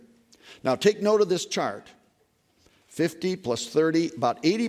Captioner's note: none